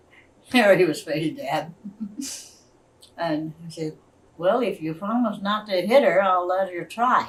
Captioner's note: laughs